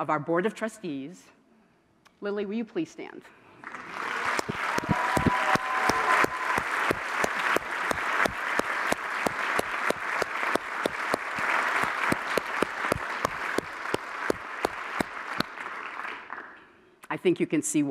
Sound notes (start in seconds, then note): 4.1 applause